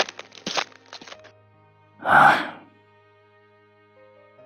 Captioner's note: sigh